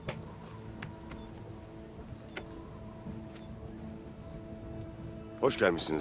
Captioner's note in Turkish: Kuş cıvıltısı sesleri; Rüzgâr sesi